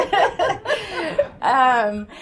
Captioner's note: laughter